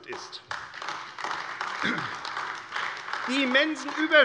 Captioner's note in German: Beifall AfD